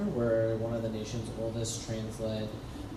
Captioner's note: none